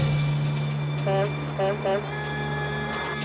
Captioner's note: truck horn honks